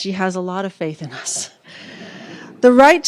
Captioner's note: laughter